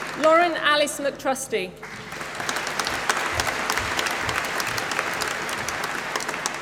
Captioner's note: applause